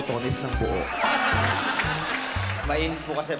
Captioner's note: crowd laughing